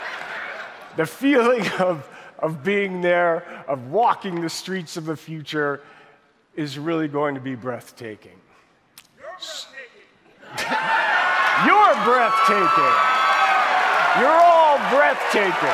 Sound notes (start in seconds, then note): 10.5 audience cheering; 10.6 audience applauding